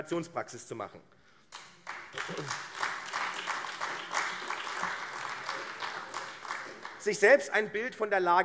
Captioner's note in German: Beifall AfD